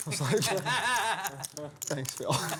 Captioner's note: laughter